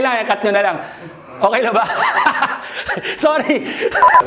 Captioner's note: laughs